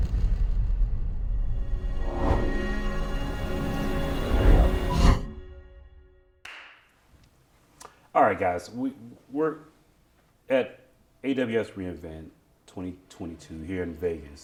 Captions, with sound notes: (dramatic music) >> (claps) All right guys. We're at AWS re:Invent 2022 here in Vegas,